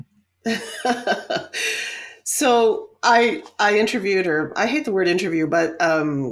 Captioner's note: laughs